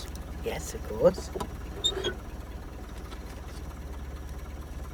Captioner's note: glove box creaking open